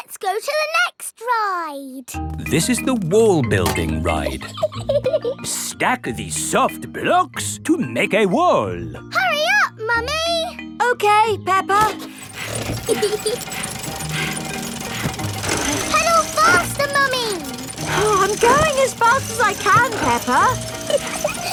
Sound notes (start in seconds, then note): 4.3 laughs; 12.0 mummy pig panting; 12.8 peppa laughing